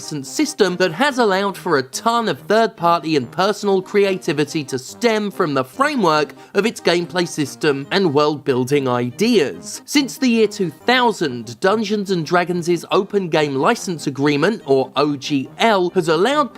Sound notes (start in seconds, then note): none